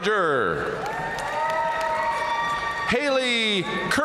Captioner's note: audience cheering and applauding